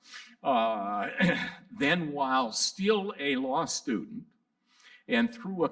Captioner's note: laughs